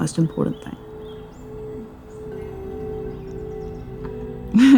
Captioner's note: birds chirping; chuckles